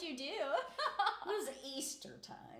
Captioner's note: laughing